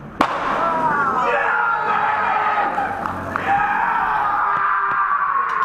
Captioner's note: the most excited cheering ever heard